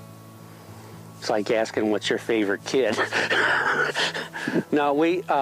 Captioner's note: laughs